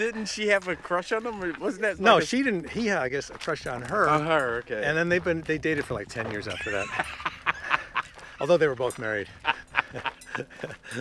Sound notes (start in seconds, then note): 6.4 laughs